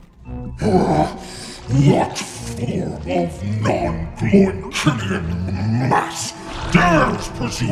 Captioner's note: growls